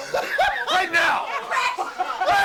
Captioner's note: laughing